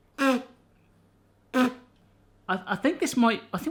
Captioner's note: spits